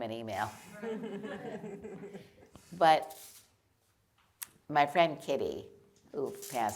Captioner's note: laughter